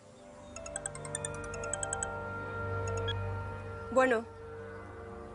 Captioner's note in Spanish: Suena el celular